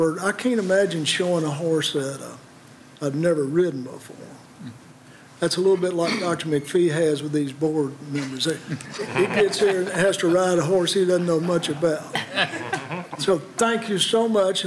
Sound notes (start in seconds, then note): 8.6 laughter